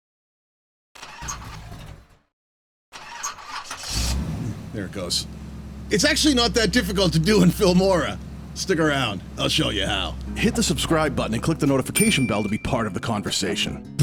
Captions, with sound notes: *Engine sputtering* *Engine starting* There it goes. It's actually not that difficult to do in Filmora Stick around, I'll show you how! Hit the subscribe button and click the notification bell to be part of the conversation